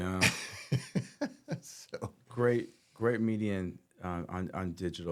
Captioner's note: laughing